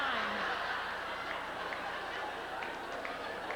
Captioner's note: laughter